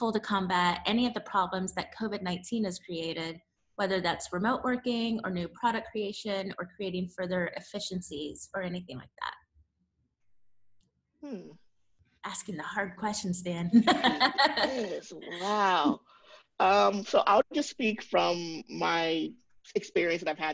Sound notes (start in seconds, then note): 13.8 laughs